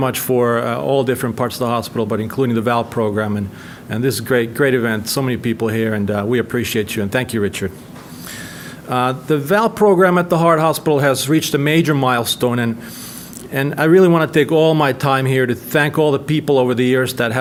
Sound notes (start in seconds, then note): none